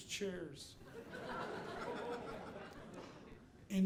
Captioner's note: audience laughing